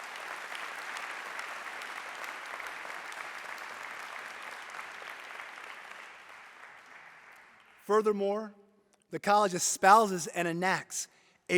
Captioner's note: applause